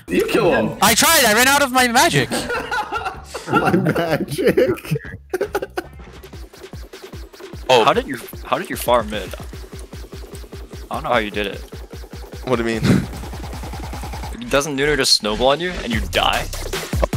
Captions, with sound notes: - You kill him. - I tried, I ran out of my magic. (all laugh) - My "magic" - How did you, how did you farm mid? I don't know how you did it? - What do you mean? - Doesn't Nunu just snowball on you and you die?